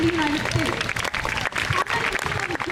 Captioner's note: crowd cheers